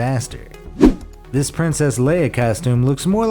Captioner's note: air whooshes